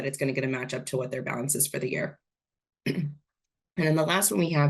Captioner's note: clears throat